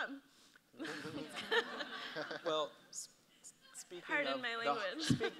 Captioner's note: audience laughs